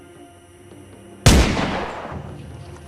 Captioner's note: gunshot booms